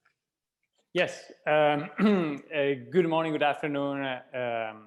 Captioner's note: clearing throat